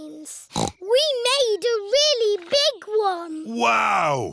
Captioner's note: snorts